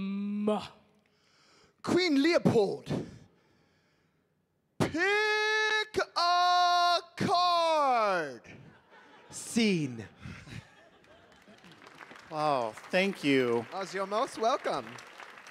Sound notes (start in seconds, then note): 8.6 audience laughing; 10.9 audience applauding